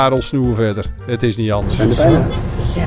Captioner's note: voiceover